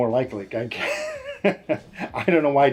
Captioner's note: chuckles